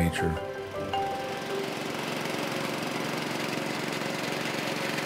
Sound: pump running

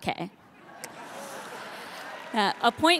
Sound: audience laughing

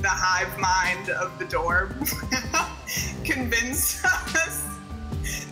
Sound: laughs

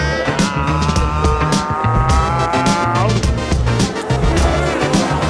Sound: growls

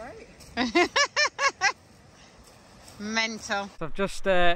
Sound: laughing

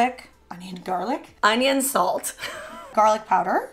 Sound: chuckles

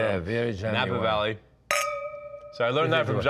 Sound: clink reverberates

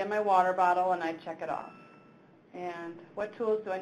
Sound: bell chimes

